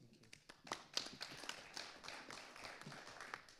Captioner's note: audience applauding